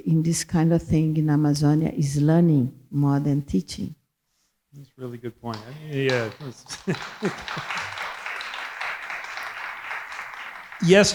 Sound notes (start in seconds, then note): 5.6 chuckles; 7.3 audience applauding